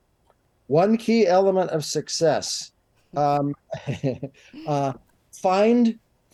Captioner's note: chuckles